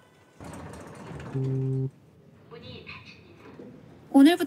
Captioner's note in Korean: 휴대전화 진동음